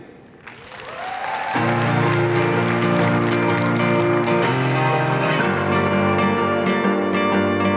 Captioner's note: applause/music playing